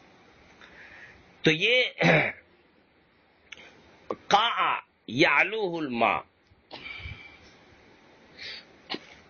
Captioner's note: clears throat